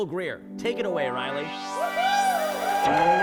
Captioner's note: upbeat music; audience cheers